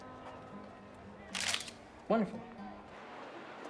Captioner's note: camera clicks